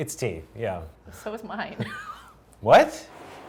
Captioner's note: laughs